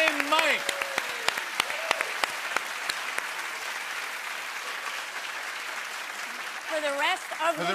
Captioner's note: applause